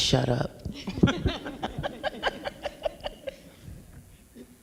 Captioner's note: panelists laugh